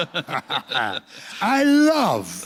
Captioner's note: laughter